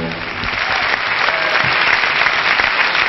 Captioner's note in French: Applaudissements